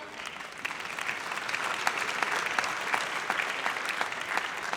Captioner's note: audience applauds